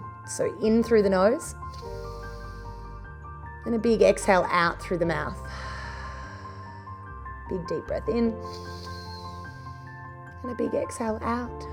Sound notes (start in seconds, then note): 1.7 inhales; 5.4 exhales; 8.4 inhales